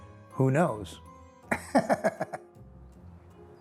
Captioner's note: laughing; bright music